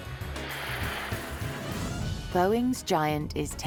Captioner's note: aeroplane whooshing